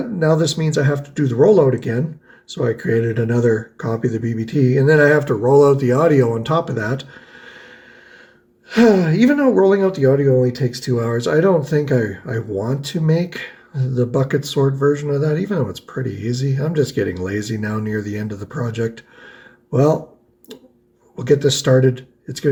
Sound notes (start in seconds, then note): 8.6 sighs